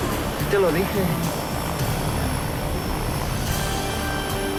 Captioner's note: Jose speaking in foreign language; upbeat music